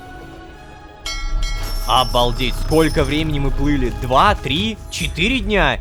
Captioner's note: ship's bell sounds